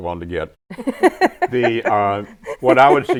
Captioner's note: laughing